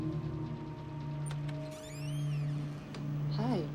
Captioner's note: door creaking